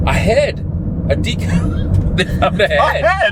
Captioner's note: laughing